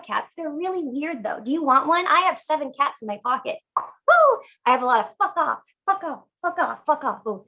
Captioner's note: pop